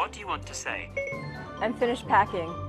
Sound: beep beep

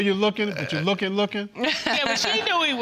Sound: laughing

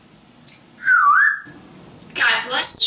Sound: whistling

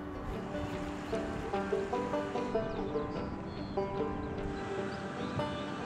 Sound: water rushing

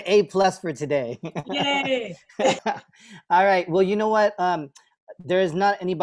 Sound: laughter

